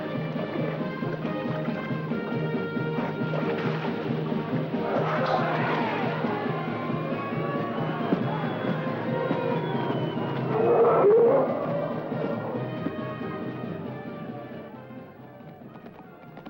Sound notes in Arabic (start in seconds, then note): 0.0 موسيقى منتصرة; 10.4 زئير الفيلة; 12.9 موسيقى منتصرة; 15.7 ضربات الحوافر